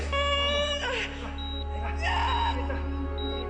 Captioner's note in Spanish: Quejidos y gritos; Bip del monitor